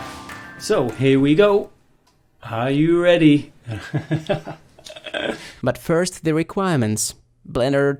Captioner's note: evil laughter